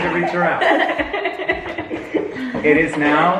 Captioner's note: all giggle